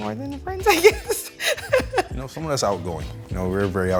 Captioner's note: chuckles